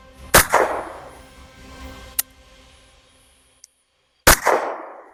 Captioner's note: gunshot